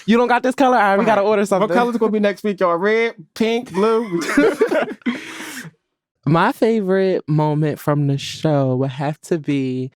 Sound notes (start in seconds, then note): 3.8 all laughing